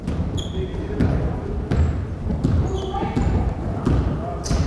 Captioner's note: crowd chattering